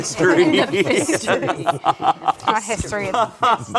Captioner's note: group laughs